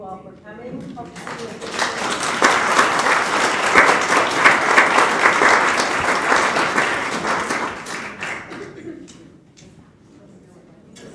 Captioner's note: applause